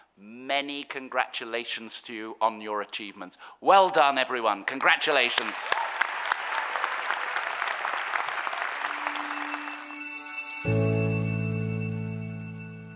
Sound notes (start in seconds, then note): 5.3 cheering applause; 8.8 electronic music